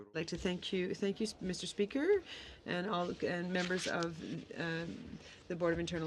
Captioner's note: speaking French